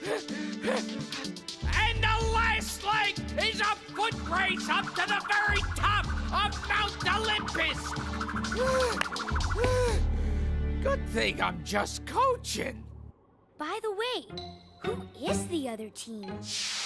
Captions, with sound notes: And the last leg is a foot race up to the very top of Mount Olympus! (Digit breathes heavily) Good thing I'm just coachin'. - By the way, who is the other team?